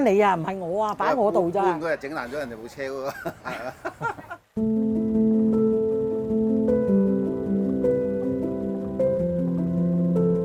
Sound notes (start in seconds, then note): 3.1 laughs; 4.6 solemn piano music begins